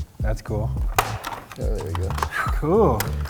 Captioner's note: toy clicking